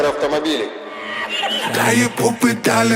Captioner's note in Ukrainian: сміх